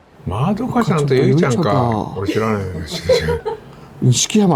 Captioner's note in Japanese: 笑い